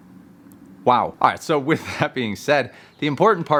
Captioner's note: chuckles